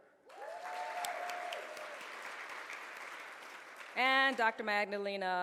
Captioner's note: audience cheers